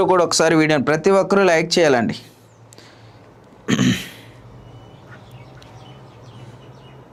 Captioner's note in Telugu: గొంతు సవరించుకోవడం